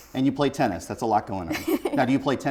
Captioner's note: laughs